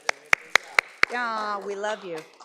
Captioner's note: audience applauds